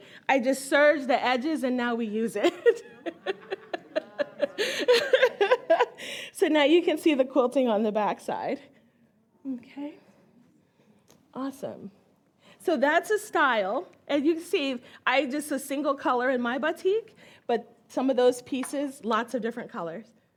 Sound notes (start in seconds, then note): 2.4 all laugh